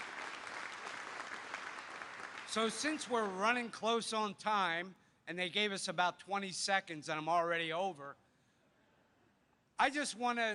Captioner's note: applause